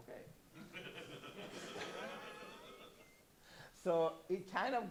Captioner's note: laughter